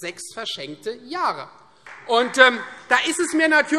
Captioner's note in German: Beifall Freie Demokraten